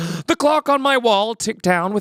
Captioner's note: gasp